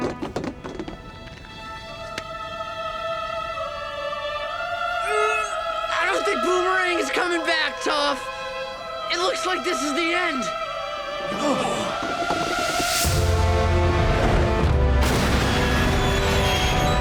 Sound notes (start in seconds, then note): 5.0 grunting